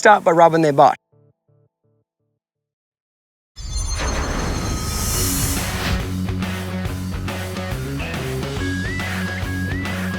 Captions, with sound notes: always start by rubbing their butt. (shimmering) (country rock music)